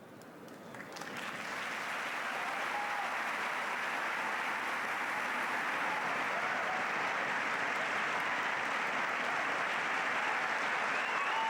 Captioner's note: applause and cheering, whistling